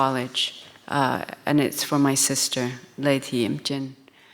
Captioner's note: speaks in foreign language